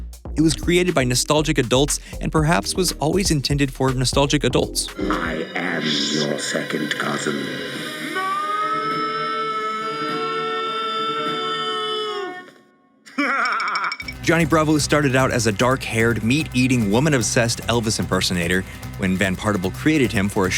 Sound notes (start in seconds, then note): 13.1 laughter